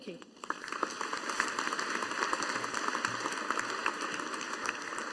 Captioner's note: audience applauding